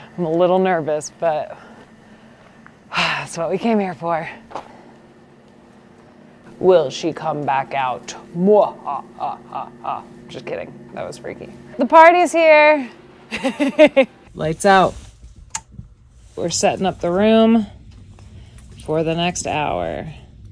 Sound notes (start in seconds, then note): 13.3 laughs